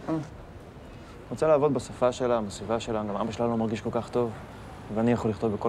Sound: speaks in foreign language

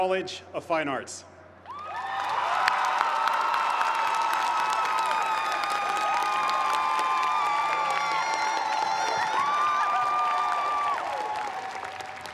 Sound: cheers and applause

